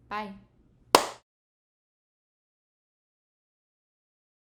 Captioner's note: clapping